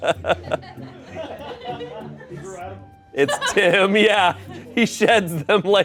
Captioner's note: laughs